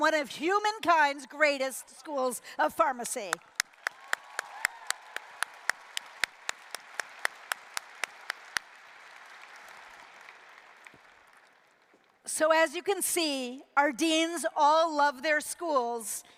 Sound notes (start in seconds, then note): 3.0 applause